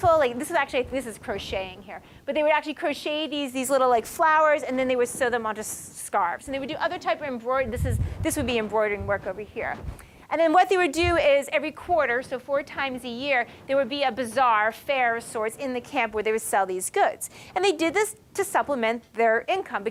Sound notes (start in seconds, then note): none